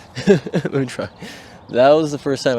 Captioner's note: laugh